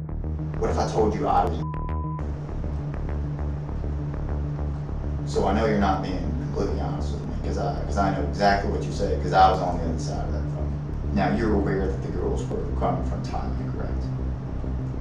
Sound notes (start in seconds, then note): 4.6 beep